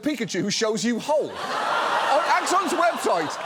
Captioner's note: audience laughs